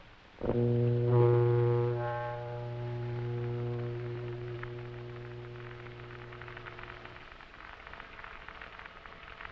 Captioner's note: radio Humming